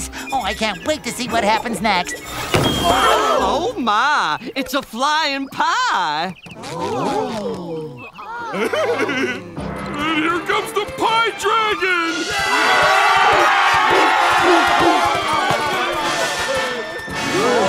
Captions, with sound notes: Oh, I can't wait to see what happens next. Oh my! It's a flying pie! [gasping] And here comes the pie dragon! [screaming]